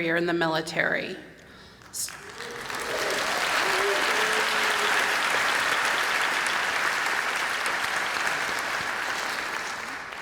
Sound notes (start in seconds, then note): 1.8 applause